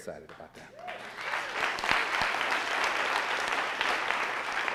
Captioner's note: audience applauding